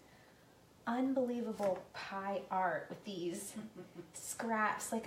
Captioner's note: laughing